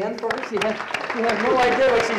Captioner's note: loud clapping